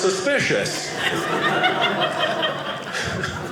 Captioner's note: audience laughing